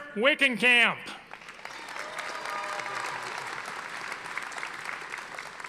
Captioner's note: audience applauding